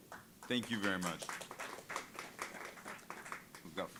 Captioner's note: audience applauding